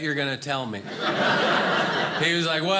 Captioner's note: audience laughing